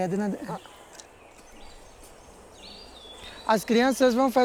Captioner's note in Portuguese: canto de pássaros